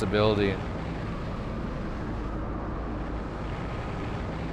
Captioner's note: engines rumbling